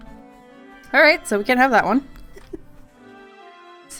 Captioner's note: laughs